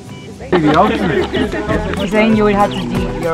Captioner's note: idle chatter